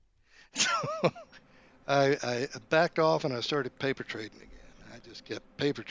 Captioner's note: laughs